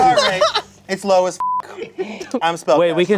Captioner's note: beep